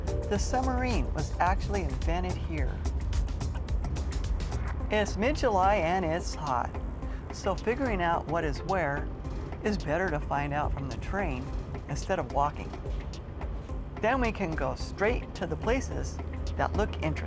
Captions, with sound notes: The submarine was actually invented here. [buzzing] It's mid-July and it's hot, so figuring out what is where is better to find out from the train instead of walking.